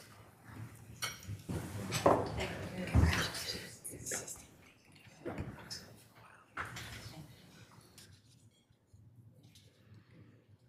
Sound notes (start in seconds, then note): none